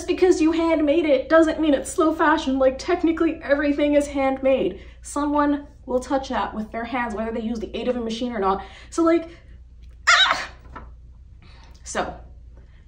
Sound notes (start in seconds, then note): 10.0 screams in frustration